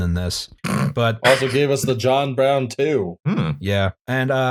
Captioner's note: laughter